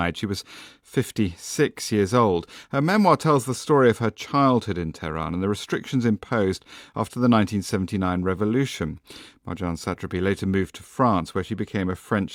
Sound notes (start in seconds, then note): none